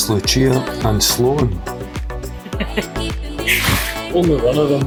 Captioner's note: laughter